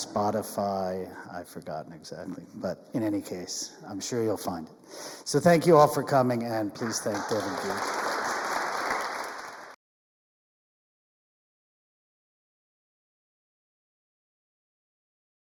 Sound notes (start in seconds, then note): 6.7 audience applauds